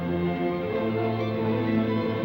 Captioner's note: none